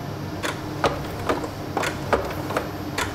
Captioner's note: rhythmic clicking